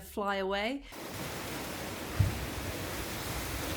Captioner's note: stong wind through the trees